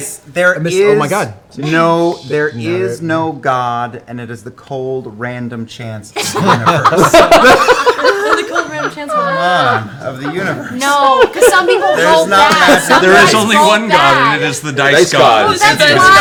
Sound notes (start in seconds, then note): 6.2 crack up